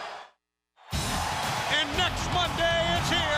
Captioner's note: crowd cheering